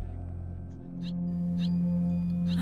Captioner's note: bird chirping